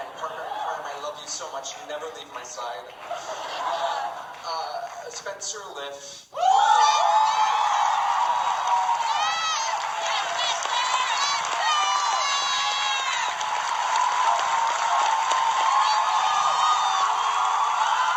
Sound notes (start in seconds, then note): 2.6 audience laughing; 6.4 Audience cheering for Spencer